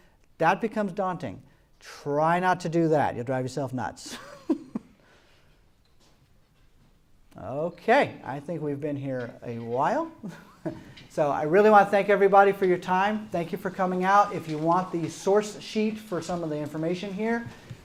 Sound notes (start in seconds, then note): 4.1 laughing; 10.2 laughters